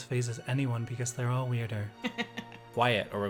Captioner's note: laughs